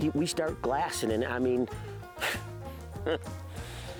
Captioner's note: laughs